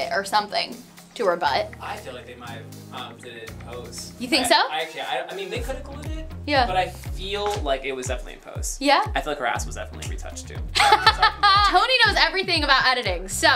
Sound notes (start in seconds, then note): 10.8 laughs